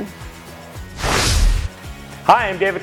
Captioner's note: graphics whooshing